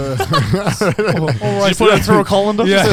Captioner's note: all laugh